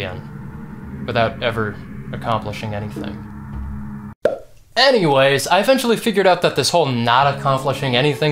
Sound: pop

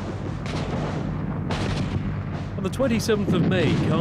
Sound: guns firing

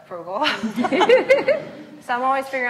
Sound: laughs

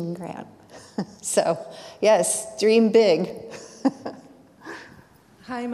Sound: chuckles

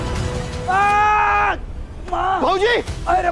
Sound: Dilpreet screaming

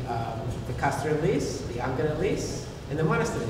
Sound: foreign language

